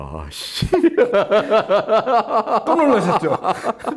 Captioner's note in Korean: 웃음